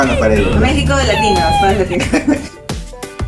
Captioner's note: laughs